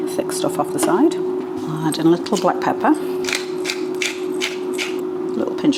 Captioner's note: pepper mill grinding